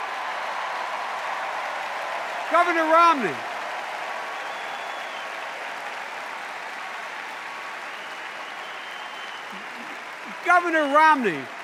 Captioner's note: extended cheers and applause